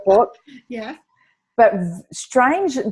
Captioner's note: laughs